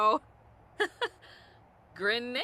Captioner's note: Sim speaking Simlish; Sim laughs; Sims speaking Simlish continues